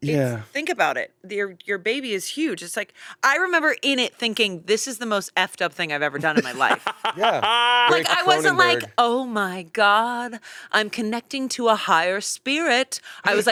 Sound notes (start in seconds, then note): 6.2 laughing